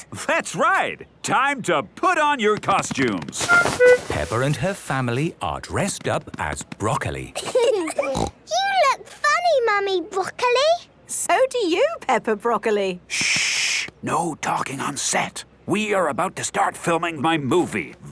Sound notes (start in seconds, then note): 7.4 laughing, snort